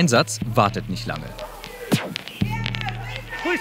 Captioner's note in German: Aufgeregtes Stimmengewirr